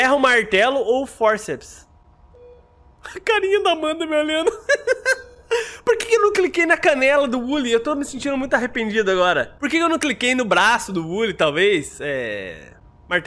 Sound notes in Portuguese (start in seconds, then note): 4.4 risos